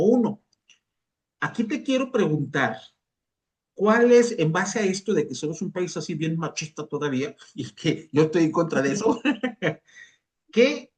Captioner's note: risas